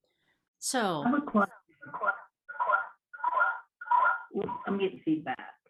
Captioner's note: some audio feedback